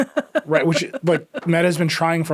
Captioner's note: laughing